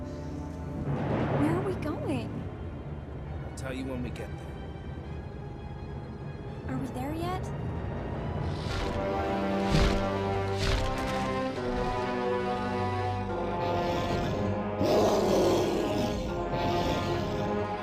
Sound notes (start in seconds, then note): 8.8 sinister music; 13.6 sphinx growling